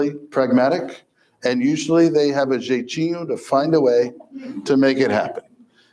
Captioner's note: foreign language